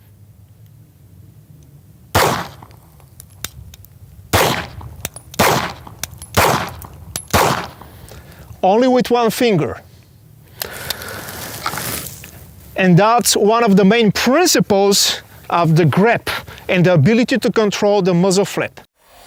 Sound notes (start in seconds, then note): 2.1 pistol firing; 4.3 pistol firing; 10.6 gun holstering